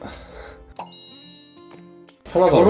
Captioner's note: sigh